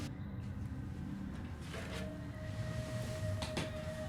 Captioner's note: none